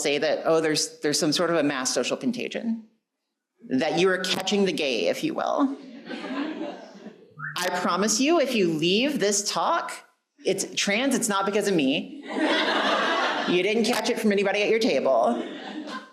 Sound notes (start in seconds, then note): 5.8 audience laughing; 12.2 audience laughing